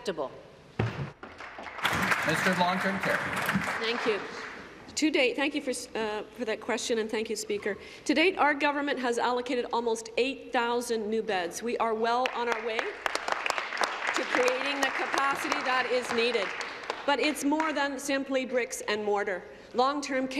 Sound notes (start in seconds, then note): 4.3 applause; 18.5 applause